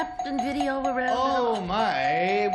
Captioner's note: bell dinging